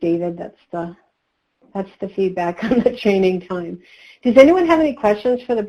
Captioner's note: laughs